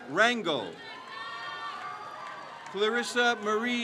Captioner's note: crowd cheers